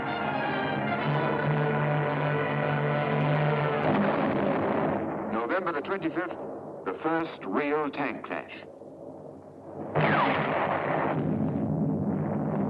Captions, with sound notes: [explosion] November the 25th, the first real tank clash. [tank fires] [explosion]